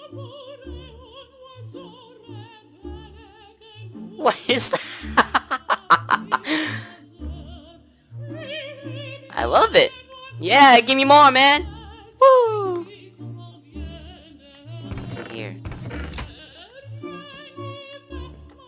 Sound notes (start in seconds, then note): 4.3 laughs